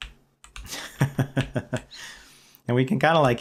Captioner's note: laughter